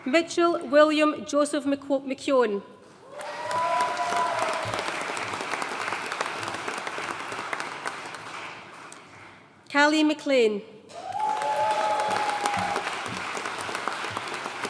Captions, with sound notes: Mitchell William Joseph McKeown. (AUDIENCE CHEERING AND APPLAUDING) Kali Mclean. (AUDIENCE CHEERING AND APPLAUDING)